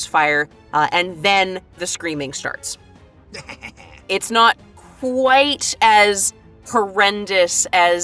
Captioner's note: GRATCH giggles